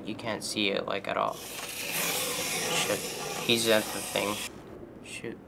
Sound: sharp scraping

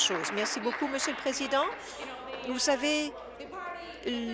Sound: applause

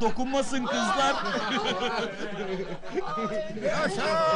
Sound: laughing

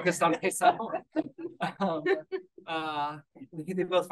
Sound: group laughing

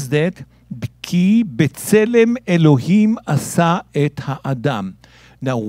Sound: speaking in Hebrew

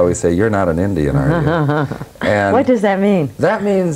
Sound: laughs

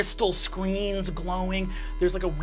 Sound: buzzing

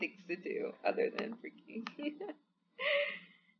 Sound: laughs

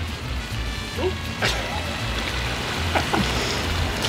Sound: laughs

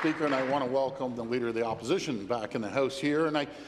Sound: applause

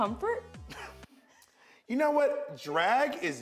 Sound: laughs

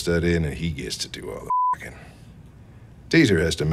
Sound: beep

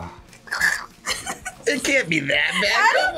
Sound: gags and laughs

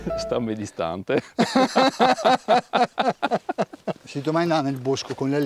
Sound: laughter

